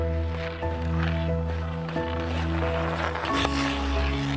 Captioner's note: gentle music continues; skates scraping